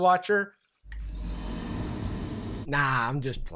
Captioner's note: ominous chime